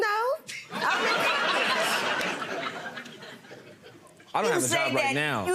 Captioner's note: audience laughing